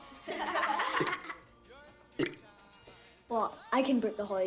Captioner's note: belching the letter 'a'; laughter of children; belching the letter 'b'; belching the letter 'c'